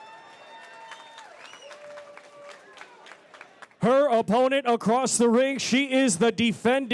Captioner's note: applause